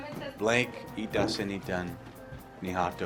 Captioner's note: foreign language